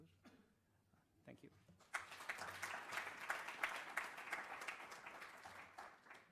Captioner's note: applause